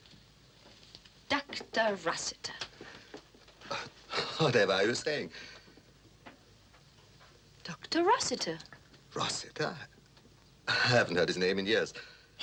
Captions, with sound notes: - Dr. Rossiter. - (breathes deeply) Whatever are you saying? - Dr. Rossiter. - Rossiter? I haven't heard his name in years.